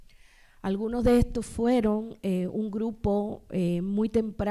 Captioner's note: speaking spanish